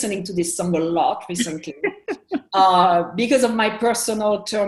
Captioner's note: laughs